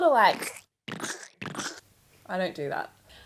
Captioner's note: squishing